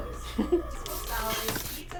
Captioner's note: laughs